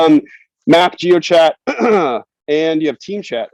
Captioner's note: clears throat